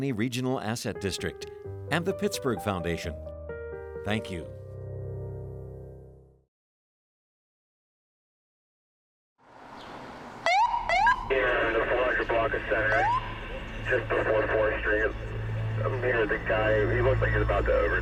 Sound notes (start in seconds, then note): 9.4 police sirens beep